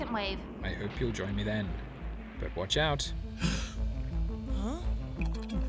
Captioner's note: gasp!